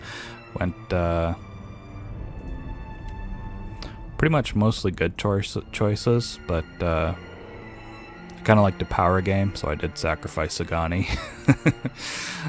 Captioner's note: laughter